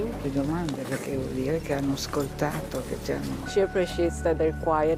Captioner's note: speaking in foreign language